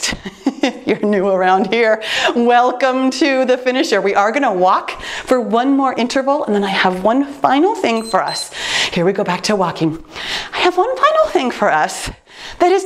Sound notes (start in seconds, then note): 7.8 timer beeps